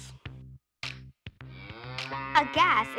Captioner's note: cow moos